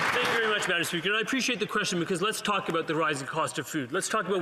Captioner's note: some Applause